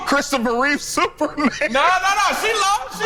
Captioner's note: laughs